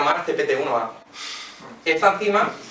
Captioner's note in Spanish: murmullos